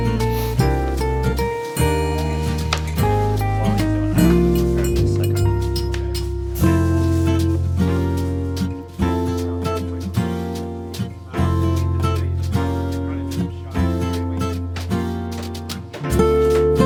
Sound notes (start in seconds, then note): 4.9 relaxing music continues; 4.9 students continue murmuring